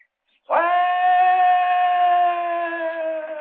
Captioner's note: howling